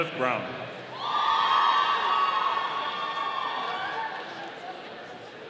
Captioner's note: audience cheering